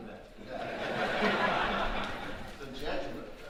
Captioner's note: audience laughing